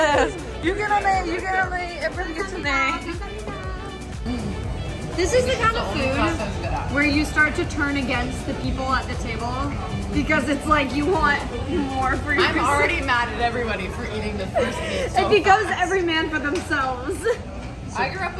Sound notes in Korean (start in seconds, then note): 11.7 ㅋㅋ; 16.9 ㅋㅋ